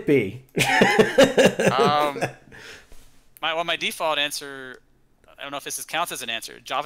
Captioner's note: laughter